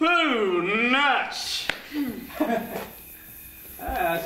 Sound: nervous laugh

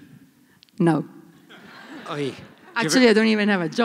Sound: laughter

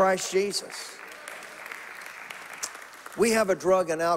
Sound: congregation applauding

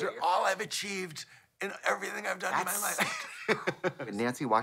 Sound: giggles

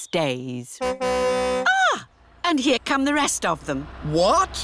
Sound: car horn tootles

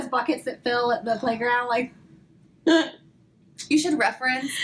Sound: laugh

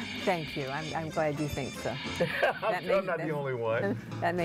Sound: laughs

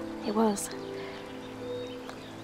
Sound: none

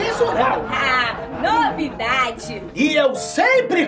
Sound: mockingly

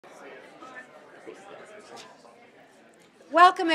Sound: students chatting

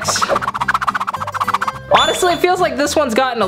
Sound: swift mixing sounds

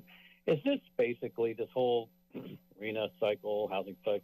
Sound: clears throat

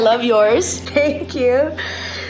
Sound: laughs

